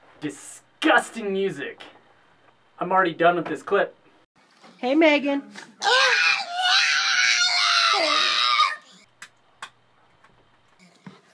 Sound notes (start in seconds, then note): 5.8 yells; 9.3 silence